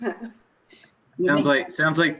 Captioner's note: laughing loudly